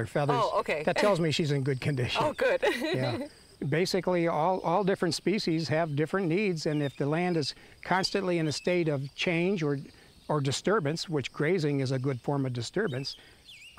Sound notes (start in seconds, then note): 2.1 laughs